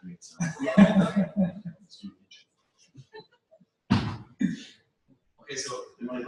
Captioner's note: pause